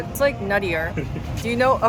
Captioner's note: giggling